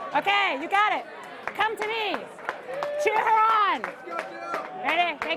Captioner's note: applause